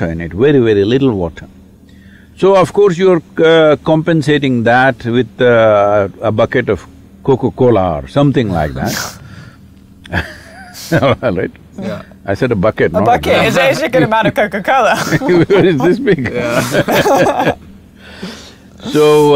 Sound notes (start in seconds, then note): 10.0 laughter; 14.7 laughter